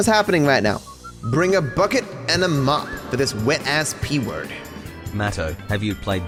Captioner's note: voice echoes